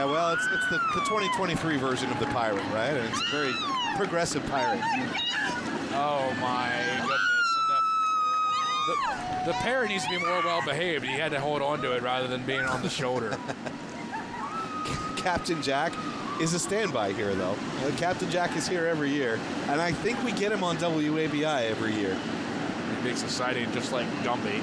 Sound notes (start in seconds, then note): 14.7 yelling